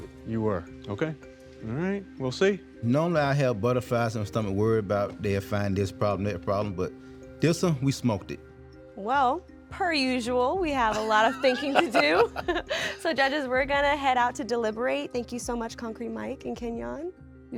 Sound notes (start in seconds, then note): 10.9 laugh